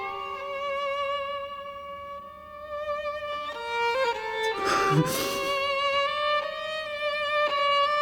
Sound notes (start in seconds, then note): 4.5 Ronnie sniffles